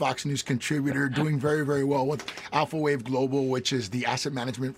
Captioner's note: laughter